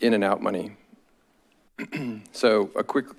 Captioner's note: clears throat